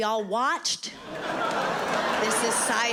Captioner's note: audience laughing